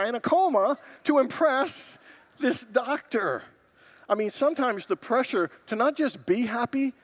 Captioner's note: congregants laugh